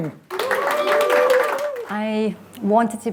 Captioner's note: audience applauding